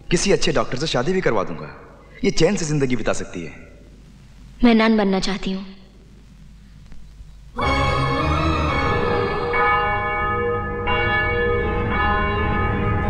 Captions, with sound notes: I'll get her married to some good doctor as well. She can spend her life peacefully. I want to be a nun. (Bell Tolling)